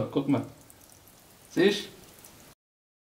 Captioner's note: badic german dialect